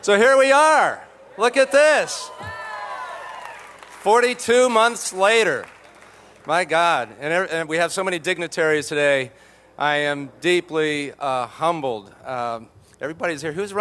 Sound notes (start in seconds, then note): 2.4 applause